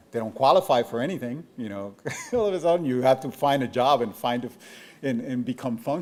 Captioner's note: chuckles